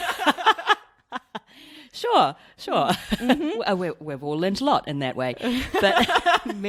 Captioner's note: laughs